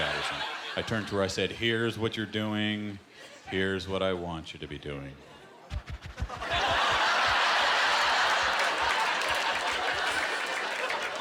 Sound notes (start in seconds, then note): 6.2 laughter; 6.9 applause